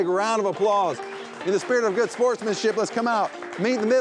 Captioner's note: clapping